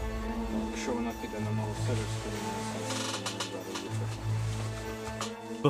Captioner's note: speaks in ukrainian